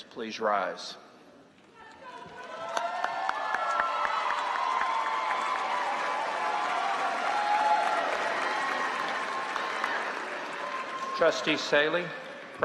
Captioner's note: applause